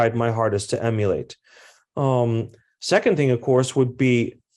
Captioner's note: none